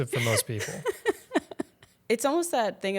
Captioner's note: laughing